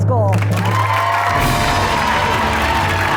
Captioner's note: audience applauds; triumphant music